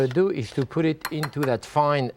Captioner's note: spoon clinking